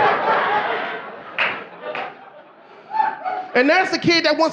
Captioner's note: audience laughing